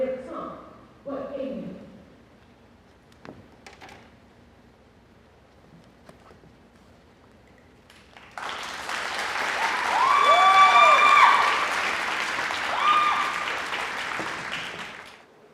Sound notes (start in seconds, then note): 7.9 applause